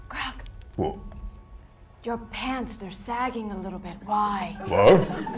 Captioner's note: whispers; whispers